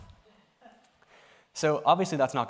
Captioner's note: laughter